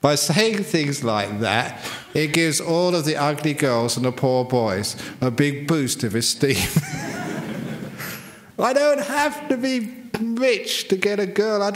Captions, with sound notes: By saying things like that it gives all of the ugly girls and poor boys a big boost of esteem [laugher]. I don't have to be rich to get a girl!